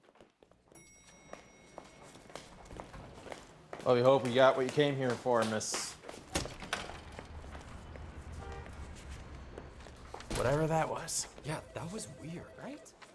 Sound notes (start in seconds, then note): 0.8 elevator dings; 6.2 door opening